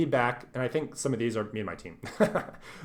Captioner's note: laughs